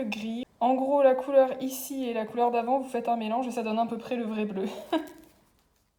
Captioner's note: laughter